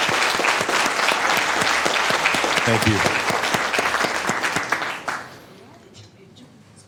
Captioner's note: applause